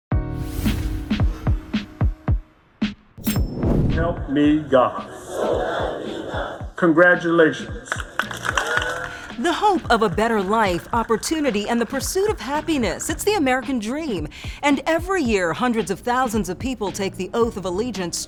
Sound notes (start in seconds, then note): 0.2 dramatic music; 4.8 crowd; 7.8 audience applauding